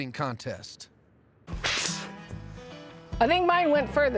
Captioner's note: both spitting